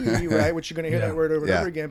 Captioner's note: chuckles